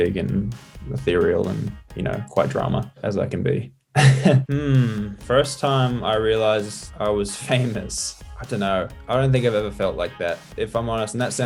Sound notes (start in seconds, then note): 4.0 laughs; 7.7 laughs